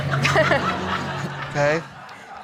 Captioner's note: all laughing